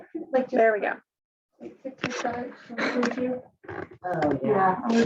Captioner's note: participants chatter